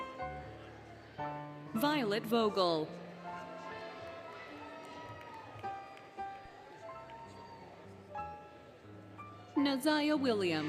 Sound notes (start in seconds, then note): 3.1 applause, Cheering, Music